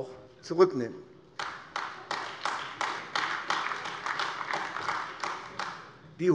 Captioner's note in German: Beifall AfD